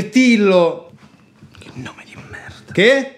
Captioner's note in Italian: sussurato